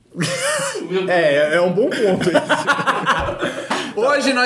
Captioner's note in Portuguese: risos